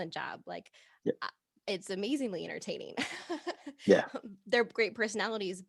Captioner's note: laughing